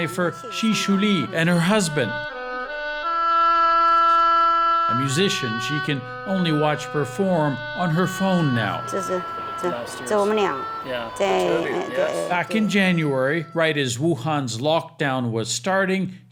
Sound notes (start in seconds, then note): 8.8 speaking Mandarin